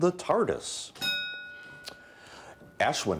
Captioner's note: bell dinging